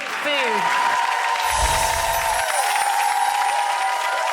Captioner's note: applause